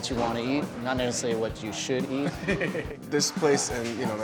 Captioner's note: laughs